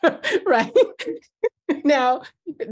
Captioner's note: laughs